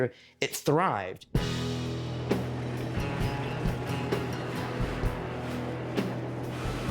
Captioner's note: soft rock music; train car rattling